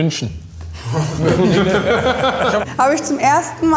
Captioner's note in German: Lachen